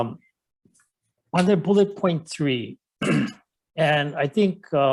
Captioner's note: clears throat